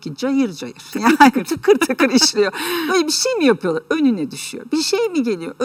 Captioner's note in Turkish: kahkaha